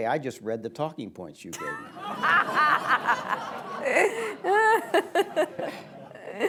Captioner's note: laughter